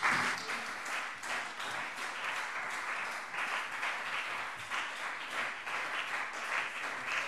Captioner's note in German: Beifall CDU und BÜNDNIS 90/DIE GRÜNEN